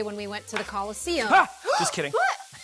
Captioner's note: gasps; laughs